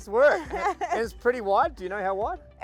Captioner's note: laughs